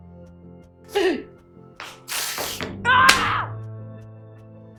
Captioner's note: Aunt Lydia inhales shakily and screams as she slaps Esther across the face